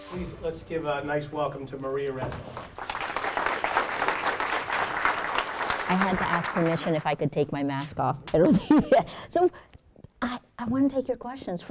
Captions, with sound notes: - Please, let's give a nice welcome to Maria Ressa. (students clapping) - I had to ask permission if I could take my mask off. (laughs) So I want to take your questions.